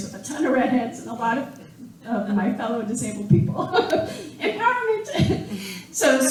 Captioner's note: laughing